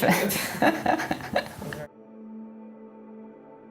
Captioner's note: laughs